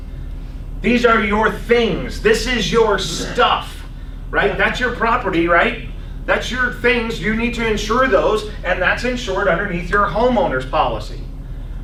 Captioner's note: laughs